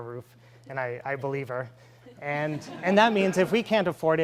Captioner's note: laughing